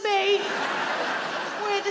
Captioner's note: audience laughing